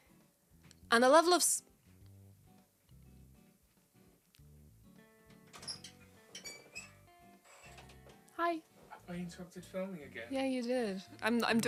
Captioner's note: door opens